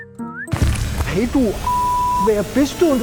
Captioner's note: beep